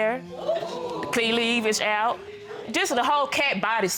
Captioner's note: audience exclaiming